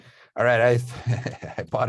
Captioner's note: laughs